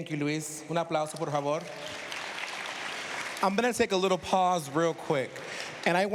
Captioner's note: speaking spanish